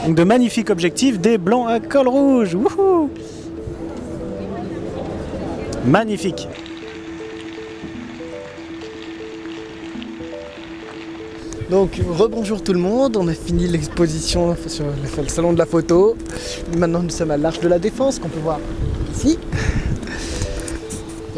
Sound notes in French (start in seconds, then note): 5.8 Bruit de fontaine derrière nous